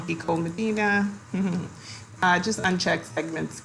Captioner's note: giggles